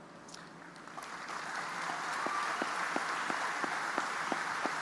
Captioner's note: audience applauding